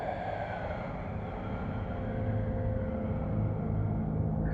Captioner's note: cave Voice